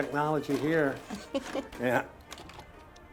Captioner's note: Rachel chuckles